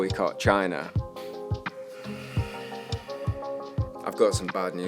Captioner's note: sigh